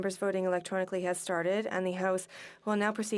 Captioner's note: speaking in FRENCH